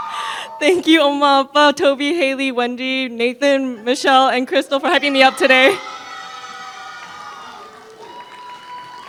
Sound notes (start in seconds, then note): 1.4 foreign Language